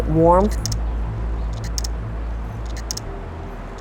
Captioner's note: shutter clicking